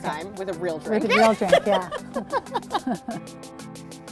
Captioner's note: laughs